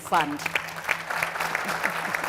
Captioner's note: audience applauds